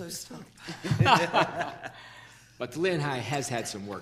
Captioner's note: people laughing